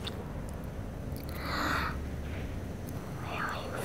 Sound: low gasp

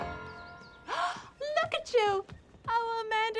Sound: gasps

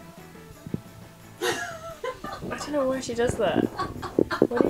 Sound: laughing

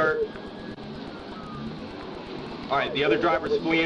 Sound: sirens in distance

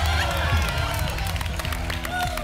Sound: applause and cheering

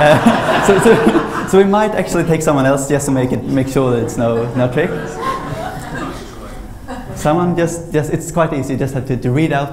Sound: laughter

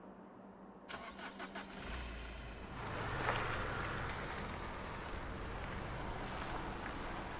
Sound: car starter whirs; engine hums

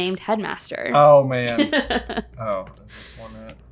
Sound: laughs

